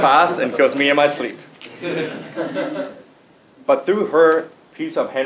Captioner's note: laugh